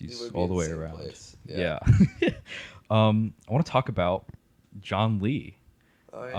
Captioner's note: laughs